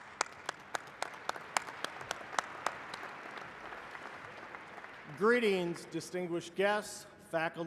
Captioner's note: applause